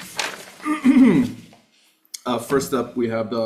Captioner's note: clears throat